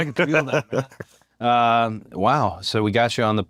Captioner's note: laugh